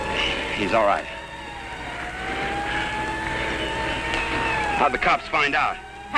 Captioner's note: distant sirens wailing